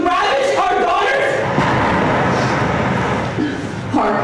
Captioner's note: closer explosion